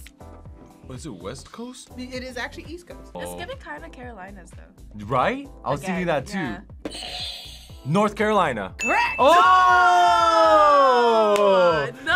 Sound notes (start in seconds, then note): 7.0 buzzer rings